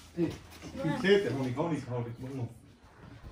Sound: Arabic

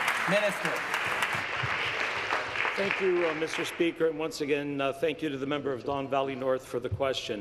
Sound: some Applause

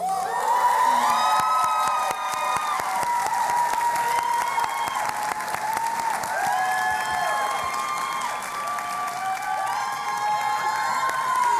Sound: cheering and Applause

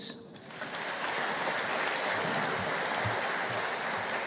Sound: audience applauding

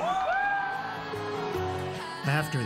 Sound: cheering and applause

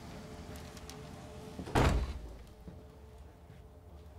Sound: door closes

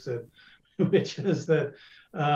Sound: laughs

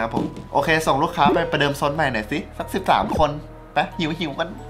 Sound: radio

